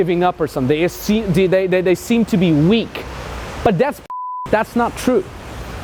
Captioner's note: beep